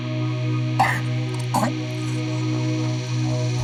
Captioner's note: gagging sounds